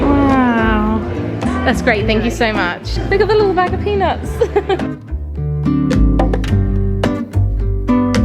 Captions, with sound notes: Wow. That's great, thank you so much. Look of the little bag of peanuts. (laughing) (chilled music continues)